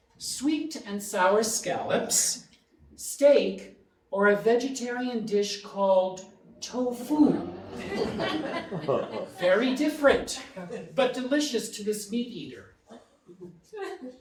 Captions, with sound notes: "sweet and sour scallops, steak, "or a vegetarian dish called tofu." (audience laughing) Very different, but delicious to this meat eater.